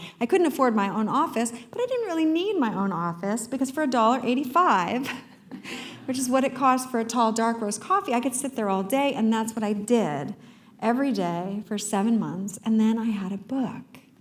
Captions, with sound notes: I couldn't afford my own office, but I didn't really need my own office because for $1.85, [laugh] which is what it costs for a tall dark-roast coffee, I could sit there all day, and that's what I did. Every day, for 7 months, and then I had a book.